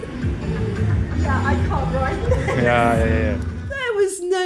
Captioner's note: laughing